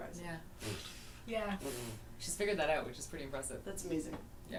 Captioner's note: blowing